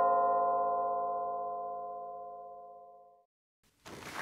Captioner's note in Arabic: رنين جرس الباب